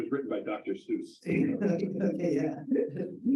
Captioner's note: laughing